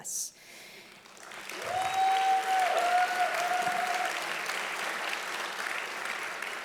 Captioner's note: audience applauding loudly